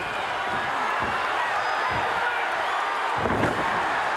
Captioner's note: audience cheering